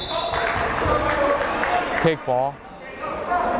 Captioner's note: whistle blowing